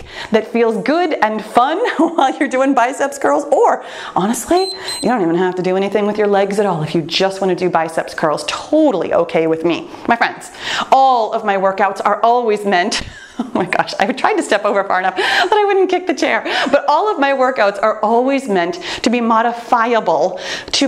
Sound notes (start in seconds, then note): 1.8 laughs; 4.5 timer beeps; 13.0 laughs